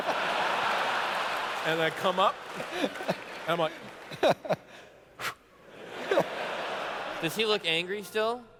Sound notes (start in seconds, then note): 0.0 laughter; 5.0 whew